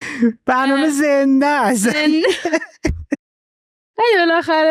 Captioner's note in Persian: خنده